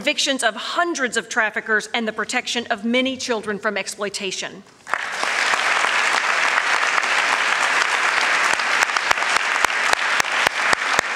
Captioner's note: applause